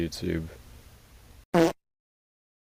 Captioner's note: fart sound effect